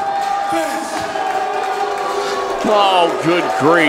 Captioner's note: crowd booing